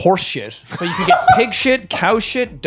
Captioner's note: laughing